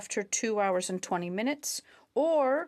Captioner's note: speaking in French